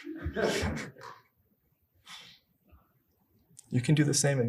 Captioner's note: audience laughing